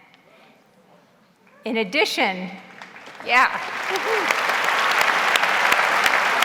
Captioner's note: audience cheers; audience applauds